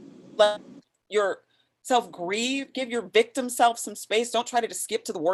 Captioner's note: audio skips